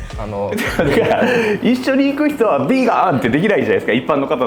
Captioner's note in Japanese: 笑い